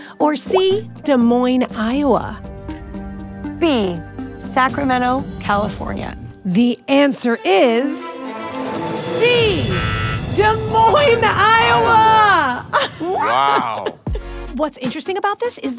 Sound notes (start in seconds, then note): 9.6 buzzer buzzes